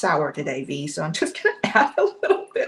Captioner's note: laughs